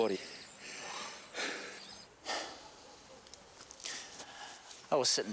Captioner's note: John breathing heavily